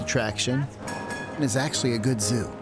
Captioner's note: streetcar bell ringing